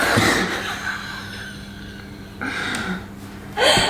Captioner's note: laughs